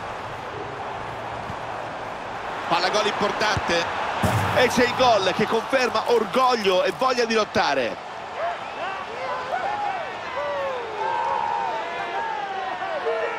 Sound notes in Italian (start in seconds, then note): 1.3 Applauso; 5.1 Applauso